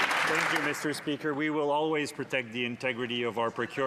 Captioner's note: some Applause